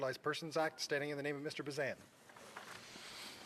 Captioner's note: speaking in French